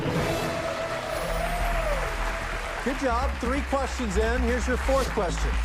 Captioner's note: cheers and applause